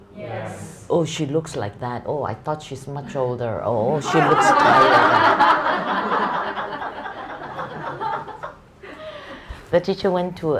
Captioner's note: audience laughter